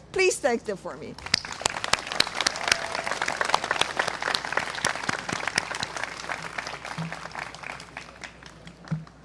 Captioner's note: applause